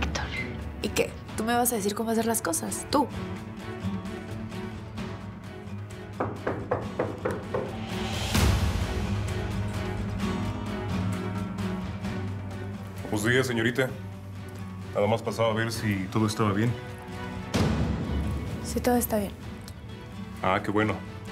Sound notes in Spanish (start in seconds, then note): 6.1 toques en la puerta